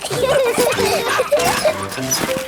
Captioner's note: peppa and george laughing; straining